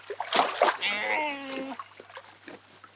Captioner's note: bleat